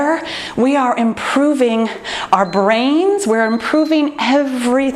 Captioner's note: timer beeps